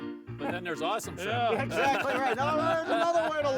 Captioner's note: group laughing